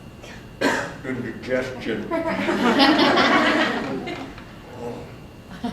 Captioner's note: laughter